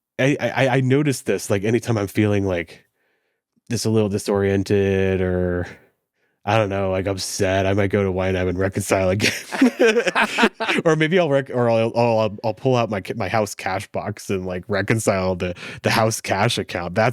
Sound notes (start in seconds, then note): 9.2 both laugh